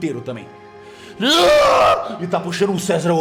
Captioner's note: screams